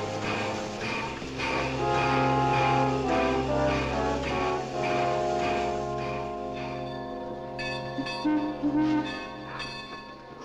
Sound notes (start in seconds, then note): 7.7 bell ringing; 7.7 train whistle blowing